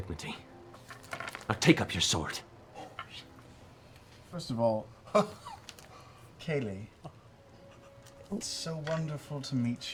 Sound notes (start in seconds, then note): 3.6 whispering